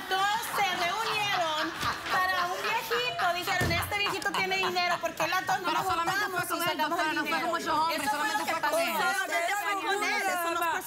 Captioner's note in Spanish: Risas; Comentarios al unísono